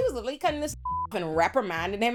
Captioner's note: beep